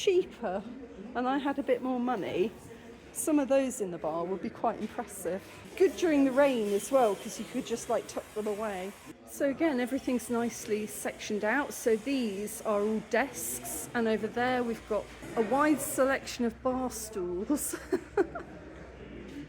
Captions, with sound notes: cheaper, and I had a bit more money, some of those in the bar would be quite impressive. Good during the rain as well, because you could just tuck them away. So again, everything's nicely sectioned out. So these are all desks, and over there we've got a wide selection of bar stools. [laughing]